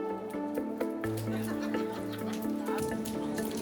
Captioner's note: laughs